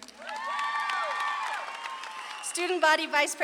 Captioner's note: audience claps and cheers